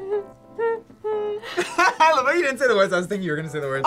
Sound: laughs

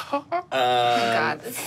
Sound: laughs

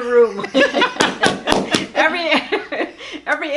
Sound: laughing

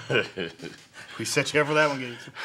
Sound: Gates laughs

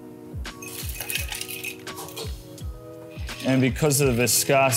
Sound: ice clinking

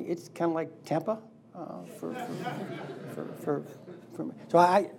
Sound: laughing

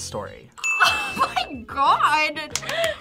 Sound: buzzer rings; bell rings; claps

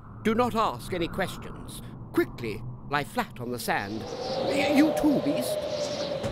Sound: wind howling

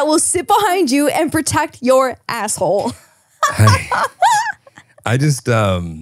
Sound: laughing

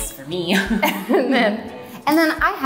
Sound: both laughing

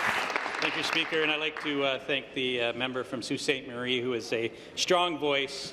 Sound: applause

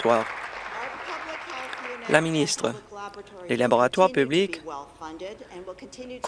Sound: applause

